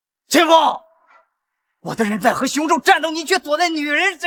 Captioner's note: gasp